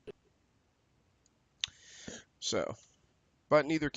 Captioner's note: audio skipping